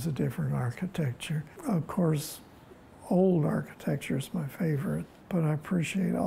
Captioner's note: none